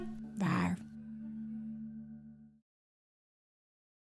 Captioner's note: monster growling